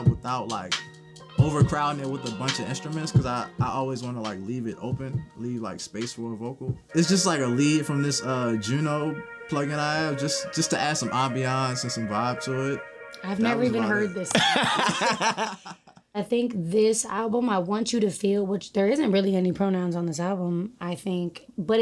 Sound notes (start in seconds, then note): 14.2 laughing